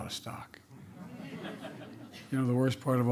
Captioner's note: laughter